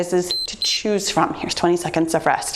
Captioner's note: timer beeps